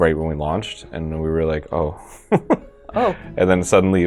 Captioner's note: laughing